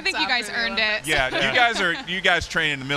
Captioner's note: laughter